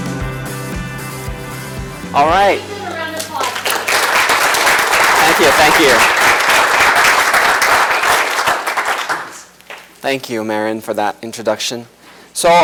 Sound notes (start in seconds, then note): 2.9 applause